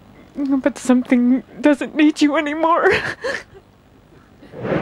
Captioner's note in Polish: płacz